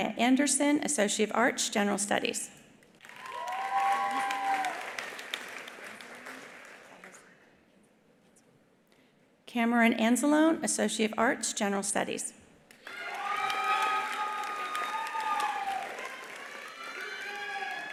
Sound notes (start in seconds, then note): 3.0 attendees applauding; 3.0 attendees cheering; 12.8 attendees applauding; 12.8 attendees cheering